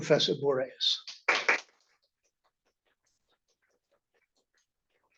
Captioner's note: applause